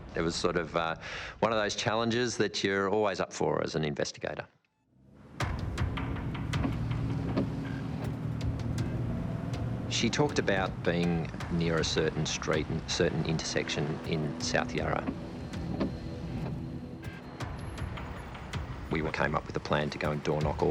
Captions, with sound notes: - It was sort of one of those challenges that you're always up for as an investigator. (dramatic music) (windscreen wipers knocking) She talked about being near a certain street, a certain intersection in South Yarra. We all came up with a plan to go and door knock